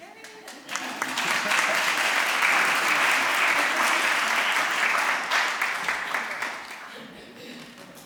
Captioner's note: applause